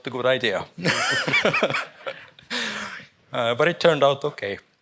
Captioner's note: all chuckling